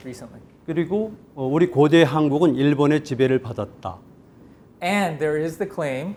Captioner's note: speaking in Korean